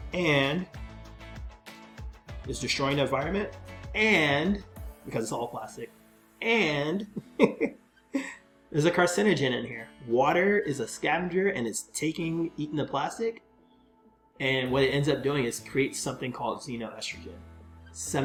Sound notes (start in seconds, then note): 7.1 chuckles